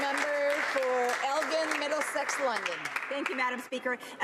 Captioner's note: some Applause